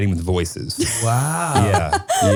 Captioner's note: laughing